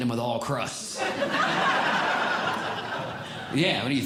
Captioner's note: audience Laughing